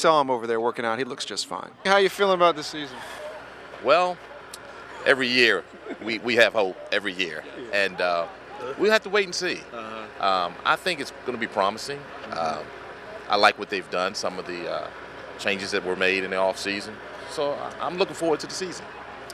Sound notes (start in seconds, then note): 2.3 laughter